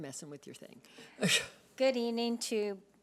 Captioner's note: laughing